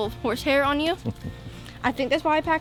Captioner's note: laughs